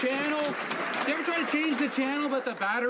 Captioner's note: some Applause